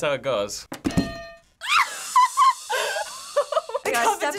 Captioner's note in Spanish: Risas